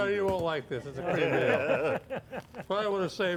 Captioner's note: all laugh